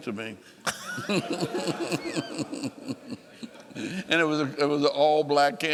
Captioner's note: laughing